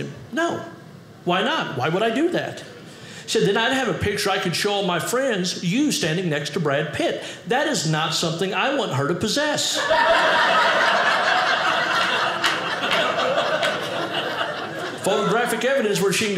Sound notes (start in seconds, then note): 9.7 audience laughing